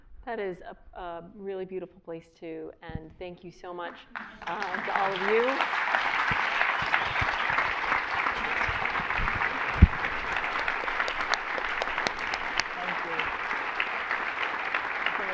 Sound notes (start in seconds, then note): 5.9 applause